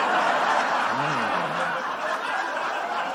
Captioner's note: laughter